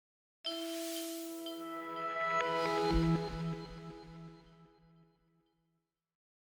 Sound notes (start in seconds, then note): 0.5 logo sound